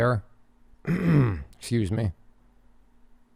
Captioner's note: clears throat